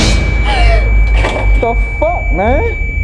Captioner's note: shrill music; gasps